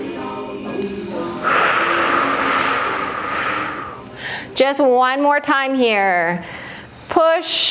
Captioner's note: breath